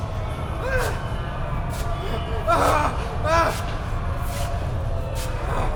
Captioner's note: groaning mummies